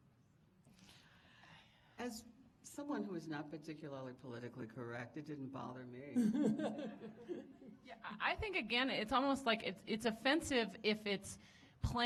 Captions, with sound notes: As someone whose not particularly politically correct it didn't bother me. [panelists laughing] I think again it's almost like it's offensive if it's